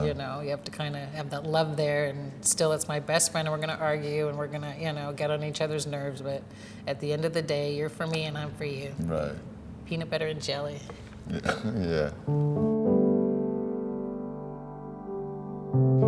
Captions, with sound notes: - You know, you have to kind of have that love there and still, it's my best friend, and we're gonna argue, and we're gonna, you know, get on each other's nerves, but at the end of the day, you're for me, and I'm for you. - Right. - Peanut butter and jelly. - Yeah. (chuckles) Yeah. (gentle affecting music)